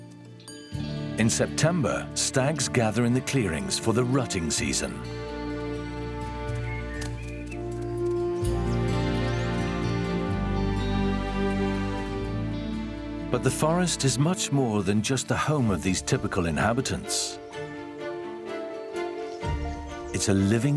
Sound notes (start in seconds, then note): 6.7 birds chirping